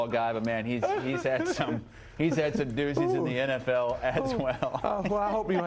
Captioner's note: laughter